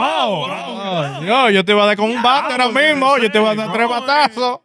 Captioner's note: speaking In Foreign Language